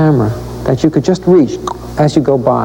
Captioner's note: clicks tongue